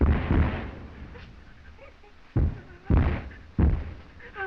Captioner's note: whimpering